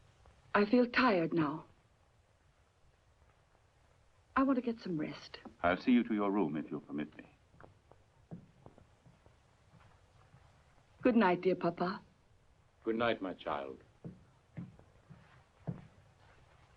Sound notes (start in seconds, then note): none